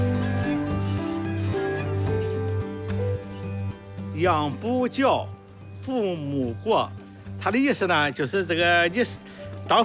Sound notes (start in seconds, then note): 4.5 hablan un idioma extranjero